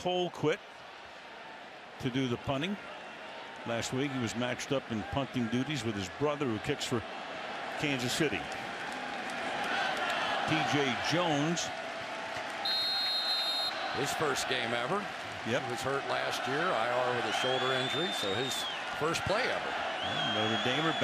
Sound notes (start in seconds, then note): 12.6 whistle